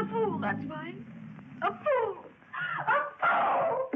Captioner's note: sobbing